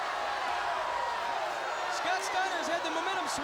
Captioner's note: crowd cheering